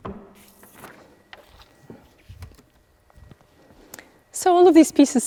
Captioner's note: pages rustling